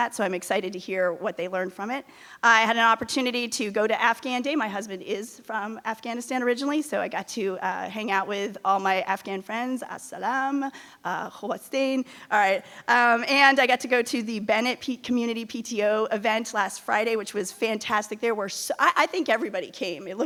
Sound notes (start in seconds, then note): 10.2 speaking in a foreign language